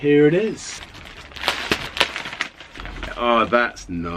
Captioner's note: plastic tearing